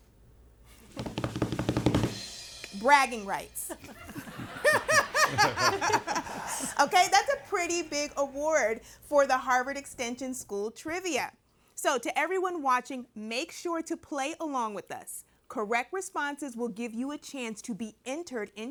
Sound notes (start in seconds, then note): 0.9 tapping on the table; 3.6 everybody laughing